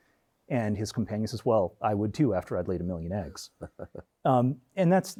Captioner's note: chuckles